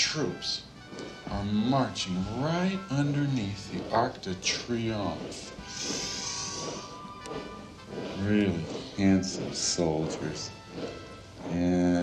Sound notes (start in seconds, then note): 6.8 soldiers marching